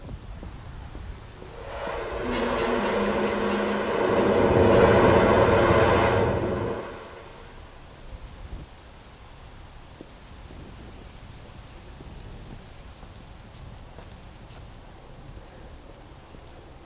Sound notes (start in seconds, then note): 1.4 air whooshing; 2.4 disturbing music